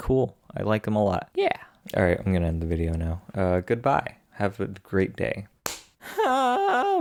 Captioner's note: clap